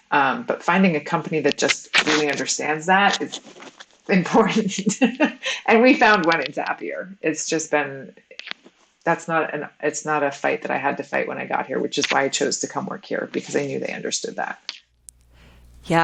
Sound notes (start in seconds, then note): 4.3 laughs